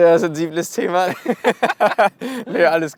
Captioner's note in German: Beide lachen